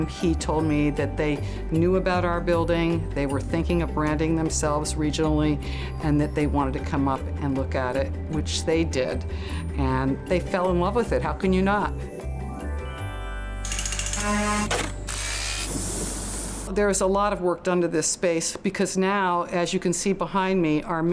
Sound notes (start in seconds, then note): 12.0 machinery buzzing and drilling